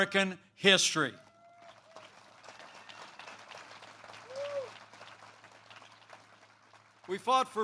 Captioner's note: applause